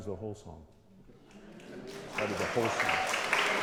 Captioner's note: applause